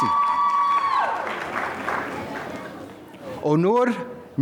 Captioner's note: applause